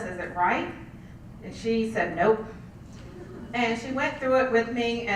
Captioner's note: laugh